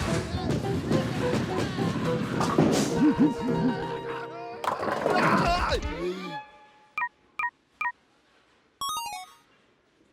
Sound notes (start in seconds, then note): 8.8 beeping